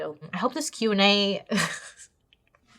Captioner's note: laughs